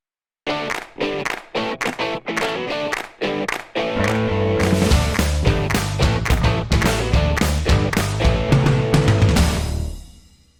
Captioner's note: claps